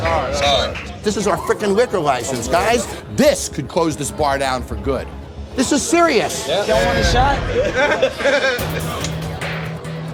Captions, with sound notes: Sorry. This is our frickin' liquor license, guys! This could close this bar down for good. This is serious! Ya'll want a shot? [LAUGHS] [DRAMATIC MUSIC]